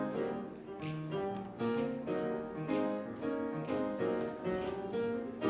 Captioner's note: fingers clicking rhythmically